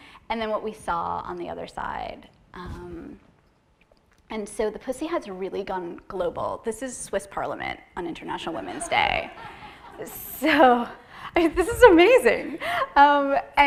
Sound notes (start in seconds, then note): 8.6 laughter